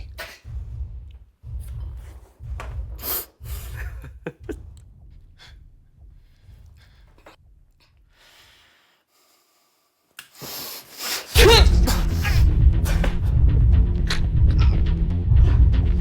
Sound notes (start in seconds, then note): 0.1 Max laughing; 11.3 suspenseful music; 11.4 Ford groaning